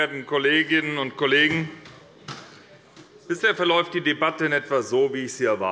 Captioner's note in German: none